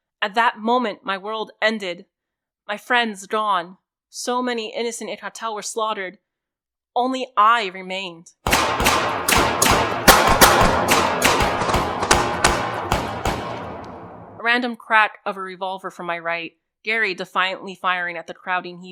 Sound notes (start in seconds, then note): 8.4 sporadic revolver fire